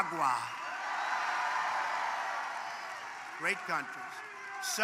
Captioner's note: applause